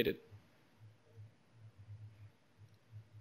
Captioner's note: pause